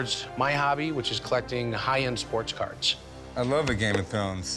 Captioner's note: none